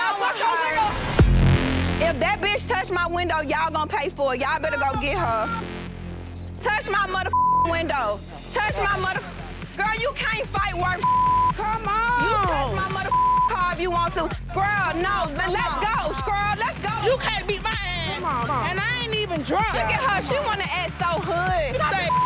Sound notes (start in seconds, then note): 0.8 dramatic music; 7.3 beeping; 11.0 beeping; 21.9 beeping